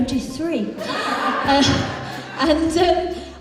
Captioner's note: audience Laughs